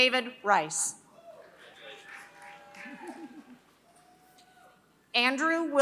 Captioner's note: applause